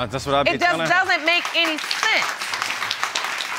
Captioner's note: audience applauds